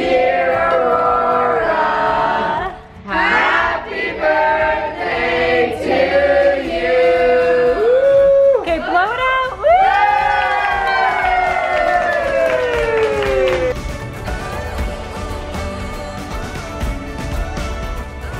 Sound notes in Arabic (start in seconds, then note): 9.9 الكل صفقوا وابتهجوا; 14.6 موسيقى حيوية